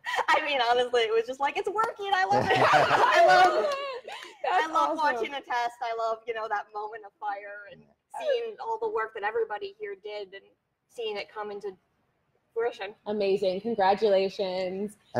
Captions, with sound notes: I LOVE IT! [ LAUGHTER ] >> I LOVE WATCHING THE TEST. I LOVE THAT MOMENT OF FIRE. AND SEEING ALL THE WORK THAT EVEN HERE DID AND SEEING IT COME IN TO FRUITION. >> AMAZING. CONGRATULATIONS. >> AND 7,000-POUNDS OF THRUST ON